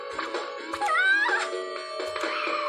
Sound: ahhh~!

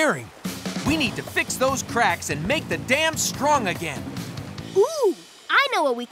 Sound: none

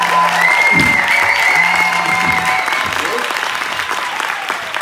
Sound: applause; phone buzzing in background

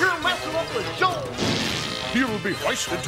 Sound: background raspberry blowing

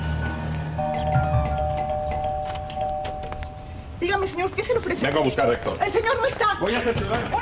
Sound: doorbell

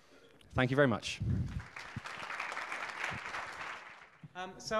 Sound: audience applauding

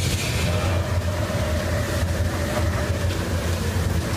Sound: wind howling

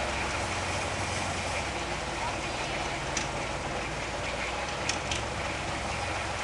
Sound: water Sound

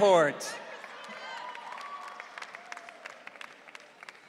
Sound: audience cheering

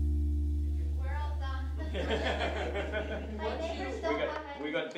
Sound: artists laugh

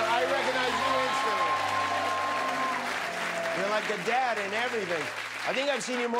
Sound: cheers and applause

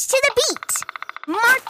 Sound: woodpecker pecking

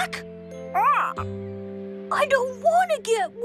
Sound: squawk!

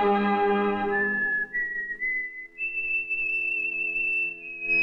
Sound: whistling

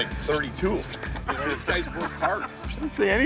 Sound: laughter

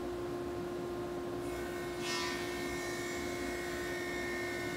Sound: saw zings

